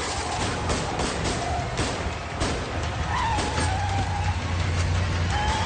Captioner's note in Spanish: Disparos